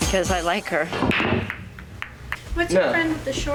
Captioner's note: pool balls break